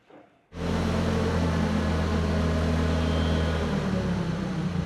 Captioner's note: forklift engine running